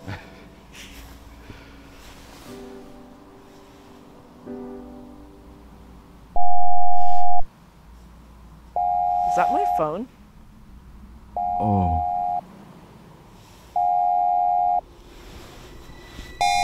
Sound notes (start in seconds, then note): 0.0 gentle music continues; 0.1 Benson and Lucy laughing; 6.4 alarm blaring; 13.0 alarm blaring